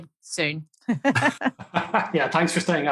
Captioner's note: laughing